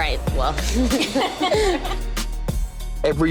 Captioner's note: laughter